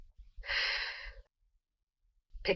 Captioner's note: exhales smoke